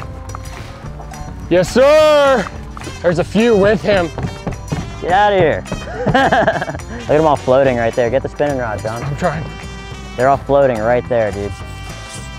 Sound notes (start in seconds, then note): 5.8 laughter